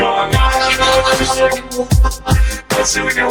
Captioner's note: laughing